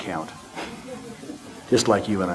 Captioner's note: audience laughter